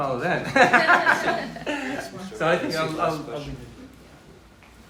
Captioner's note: laughter